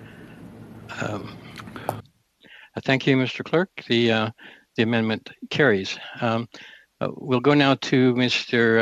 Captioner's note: speaking French